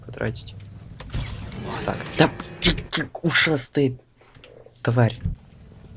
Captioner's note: sounds of anger